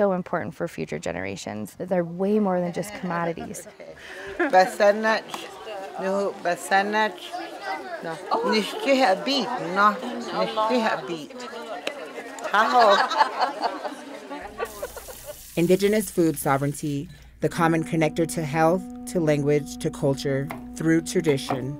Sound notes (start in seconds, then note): 4.1 foreign language; 12.3 laughing